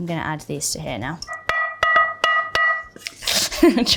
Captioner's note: pan clanging; Bella chuckling